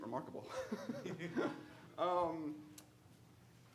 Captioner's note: laughing